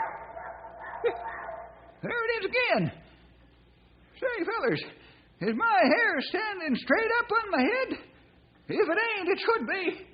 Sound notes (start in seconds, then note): 0.0 duck barks